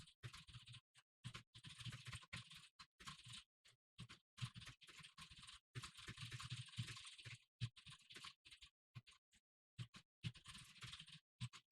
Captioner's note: typing sounds